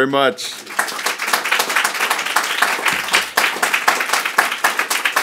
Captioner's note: audience applauding